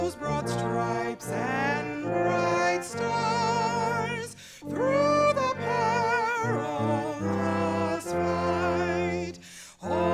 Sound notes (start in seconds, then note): none